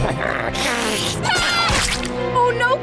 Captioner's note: screaming